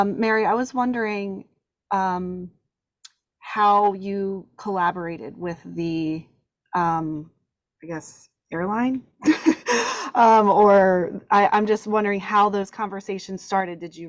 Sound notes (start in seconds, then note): 9.3 laughs